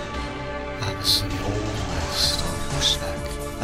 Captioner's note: dreamy voice